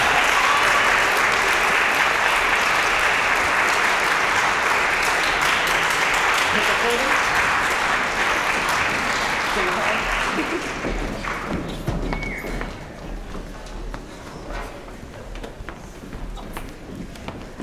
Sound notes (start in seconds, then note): 0.0 applause, cheering; 2.6 applause